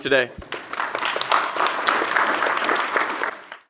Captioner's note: applause